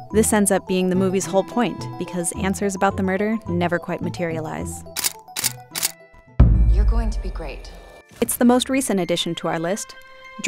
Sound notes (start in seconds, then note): 4.9 camera shutters; 6.4 eerie boom